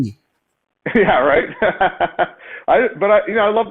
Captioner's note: laughs